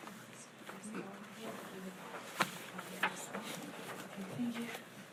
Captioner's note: board chattering